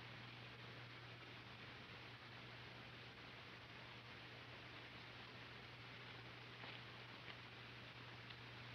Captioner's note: none